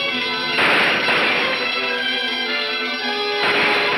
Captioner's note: gun roars